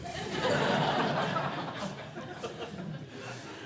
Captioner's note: audience laughing